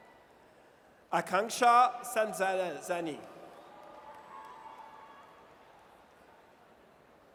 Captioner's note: audience cheers